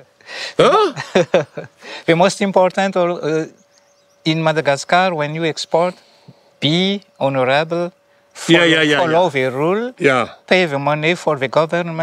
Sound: laughs

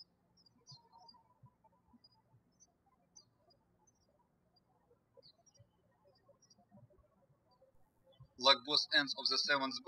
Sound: birds chirping

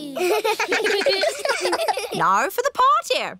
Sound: kids giggling

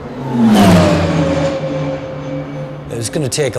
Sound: airplane engine roaring

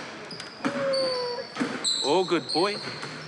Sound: sobs

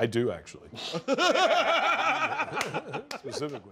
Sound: laughter

